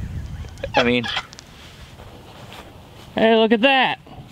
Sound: laughing

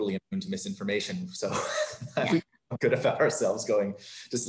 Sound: laughs

